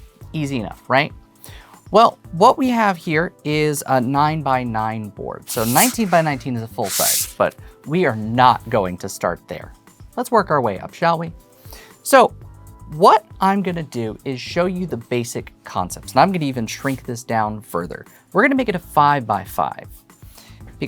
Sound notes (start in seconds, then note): 6.8 boards sliding